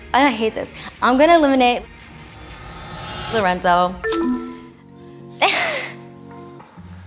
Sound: sighing

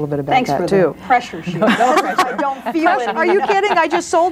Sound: overlapping chattering

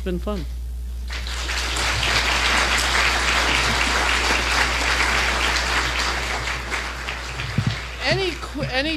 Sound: applause

